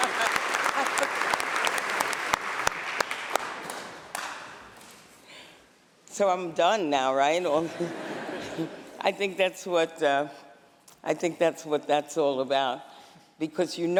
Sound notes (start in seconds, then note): 0.0 cheers and applause; 6.0 laughter